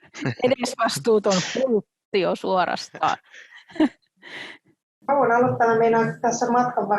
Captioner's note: naurua